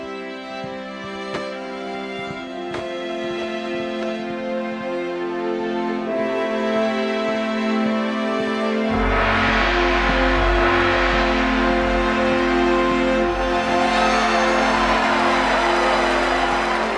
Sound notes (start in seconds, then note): 8.9 banging; 13.7 cheering